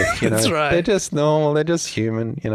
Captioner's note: laughs